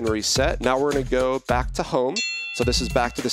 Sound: bell dinging

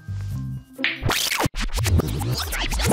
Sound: rewinding

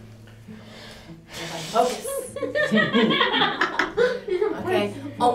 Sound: laughter

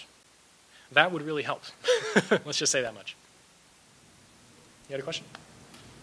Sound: laughs

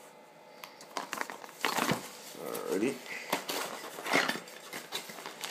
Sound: rustling

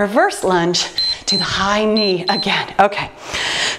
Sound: timer beeps

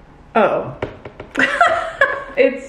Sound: laughing

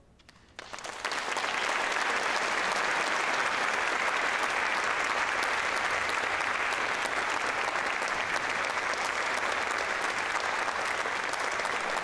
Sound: applause

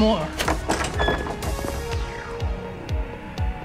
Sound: door opening

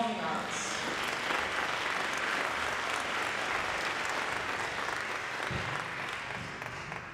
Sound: applause

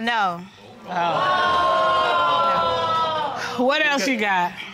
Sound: audience exclaiming

